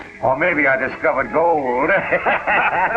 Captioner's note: laughter